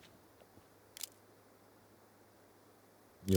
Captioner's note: camera clicks